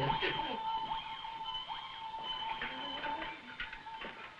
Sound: Burgomil chuckling

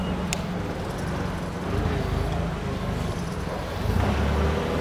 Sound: motor humming

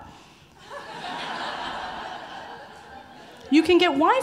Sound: audience laughing

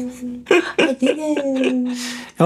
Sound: both laughing

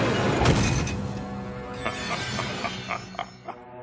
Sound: Cronus laughing

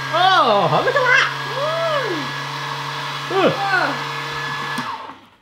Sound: none

